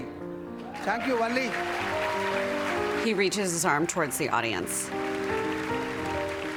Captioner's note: applause